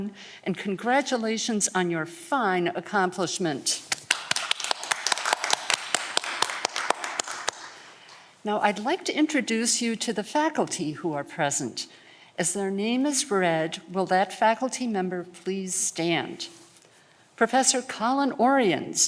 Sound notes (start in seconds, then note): 3.9 audience clapping